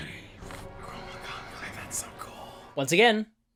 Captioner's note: whispering